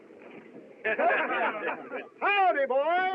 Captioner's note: all Laughing